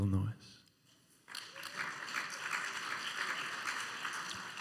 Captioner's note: tentative applause